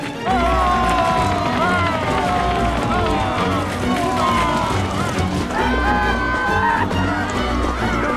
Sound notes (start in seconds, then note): 0.0 Pharaoh's army yelling, Israelites screaming